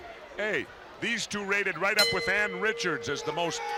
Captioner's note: bell ringing